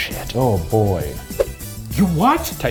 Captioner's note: hand whooshing